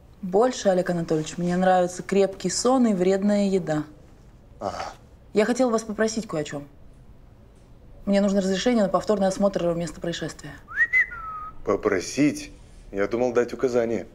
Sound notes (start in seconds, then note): 10.6 whistles